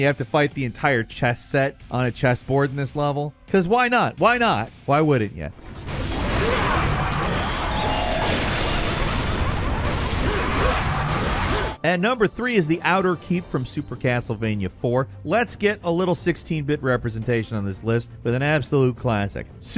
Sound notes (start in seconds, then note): 5.9 demons roar; 6.2 Dante yells; 8.5 dramatic electronic music; 8.5 electronic pulsing